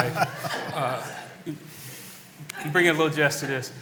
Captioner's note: laughter